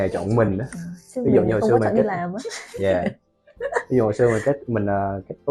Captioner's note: laugh